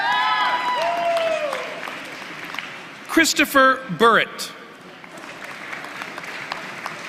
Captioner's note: applause